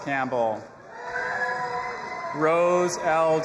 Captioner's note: audience applauding and cheering